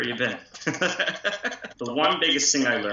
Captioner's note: laughter